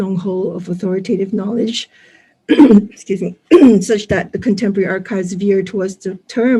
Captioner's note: coughs